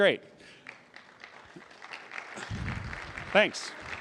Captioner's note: applause